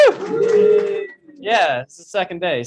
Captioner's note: cheering